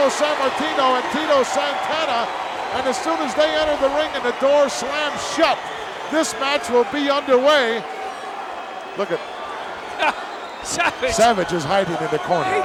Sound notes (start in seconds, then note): 9.9 laugh